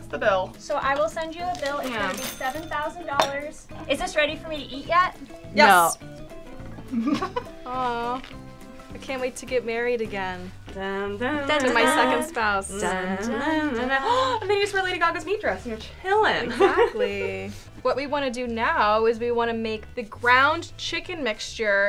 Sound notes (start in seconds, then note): 6.8 laughs; 13.9 gasps